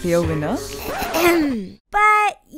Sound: clears throat

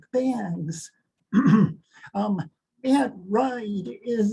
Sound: clears throat

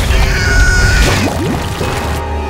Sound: dramatic music playing; screaming

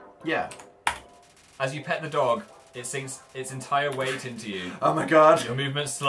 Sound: laughs

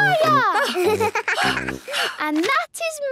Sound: giggles; panting

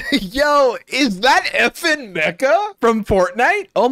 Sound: laughs

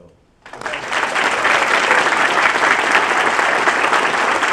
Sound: audience clapping

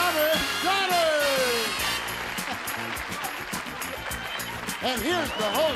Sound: applause

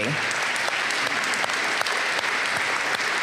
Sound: applause

